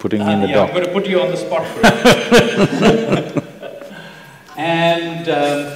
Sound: both laugh

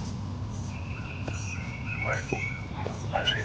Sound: whispering

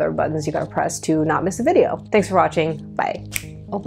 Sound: snap fingers

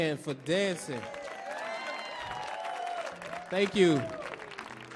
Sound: audience clapping; audience cheering

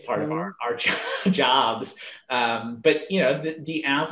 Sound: laughs

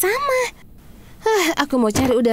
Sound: sighing

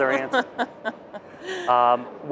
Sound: laughs

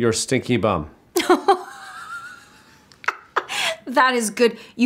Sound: laughing

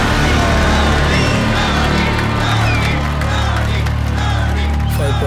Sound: crowd Cheering

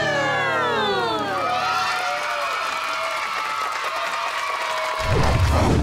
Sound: cheering, applauding

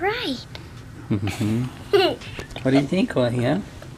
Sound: laughter

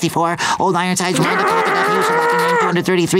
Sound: growling

